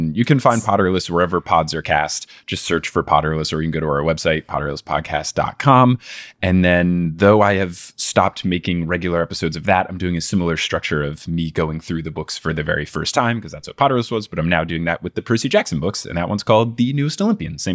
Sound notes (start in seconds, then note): none